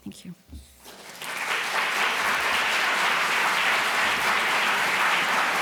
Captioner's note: applause